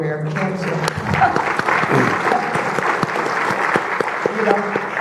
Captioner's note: audience clapping